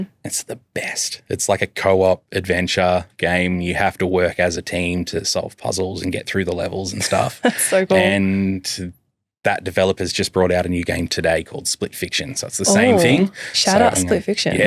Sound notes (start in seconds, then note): 6.9 chuckles